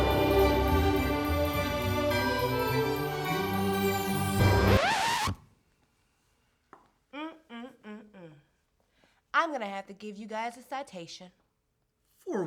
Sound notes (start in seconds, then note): 4.4 record scratches; 7.1 hums